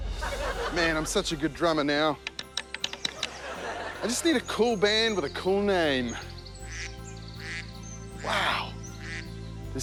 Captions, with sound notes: Man, I'm such a good drummer now. I just need a cool band with a cool name. (BIRDS SQUAWK, TWITTER) Wow.